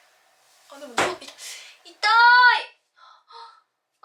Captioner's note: bam